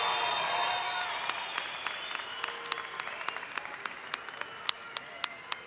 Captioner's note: audience cheering